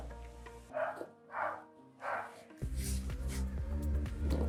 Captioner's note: dog barking